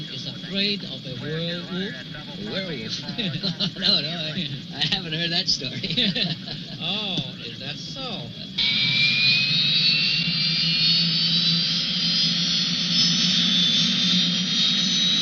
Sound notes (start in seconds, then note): 2.8 laughing; 8.2 engine roaring